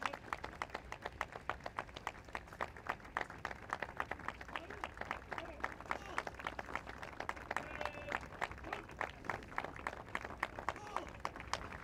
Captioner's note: applause